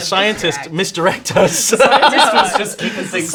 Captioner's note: laughing